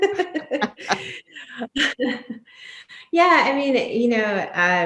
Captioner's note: both laugh